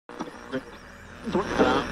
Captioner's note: static